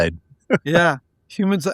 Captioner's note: laughing